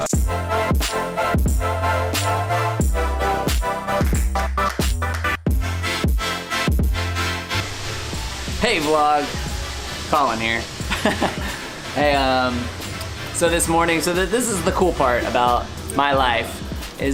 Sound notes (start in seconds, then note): 0.1 upbeat, heavy bass music; 10.9 laughs